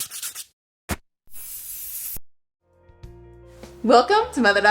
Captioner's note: sanding, spray painting sounds